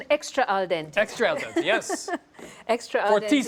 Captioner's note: laughs